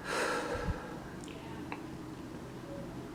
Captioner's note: breath